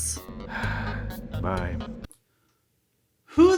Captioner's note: sighs